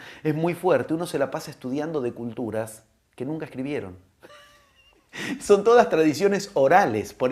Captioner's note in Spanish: risas